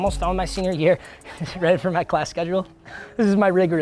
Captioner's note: laughing